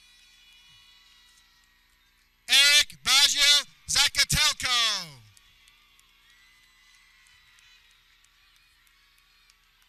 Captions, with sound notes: Eric Baja Zakatelko (people cheering)